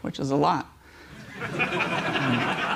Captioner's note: laughter